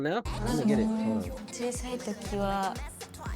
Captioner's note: non-english speech